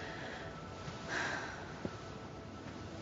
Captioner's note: sighs